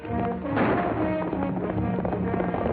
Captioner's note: gunshot